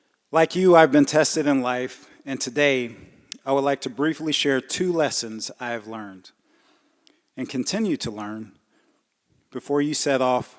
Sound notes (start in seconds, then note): none